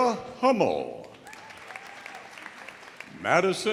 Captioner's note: audience applauding; audience cheering